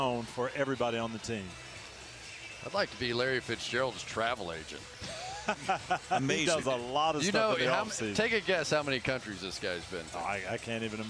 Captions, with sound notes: They set the tone for everybody on the team. I'd like to be Larry Fitzgerald's travel agent. [laughs] Amazing. He does a lot of stuff with him, obviously. Take a guess how many countries this guy's been to.